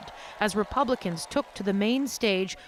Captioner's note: cheers and Applause